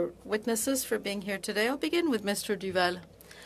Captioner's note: speaking french